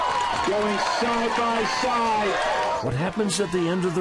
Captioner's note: crowd cheering